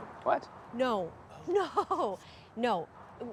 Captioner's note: laughs